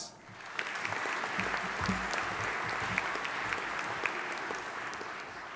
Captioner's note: audience applauding